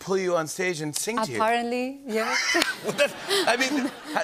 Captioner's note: laughter